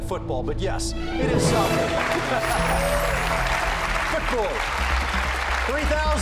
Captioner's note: laughs